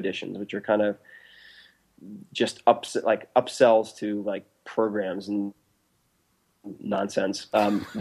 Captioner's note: laughs